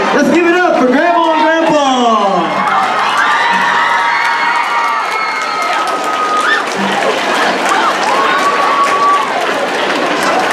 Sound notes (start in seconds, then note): 2.5 cheering